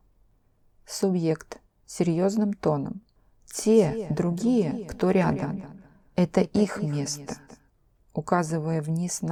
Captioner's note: in a grave tone of voice